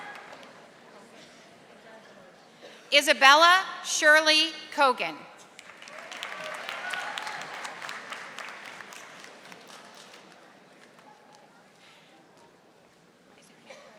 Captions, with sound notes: Isabella Shirley Kogan. (audience applauding)